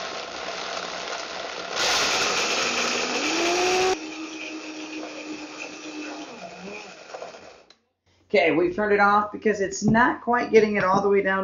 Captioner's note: grinding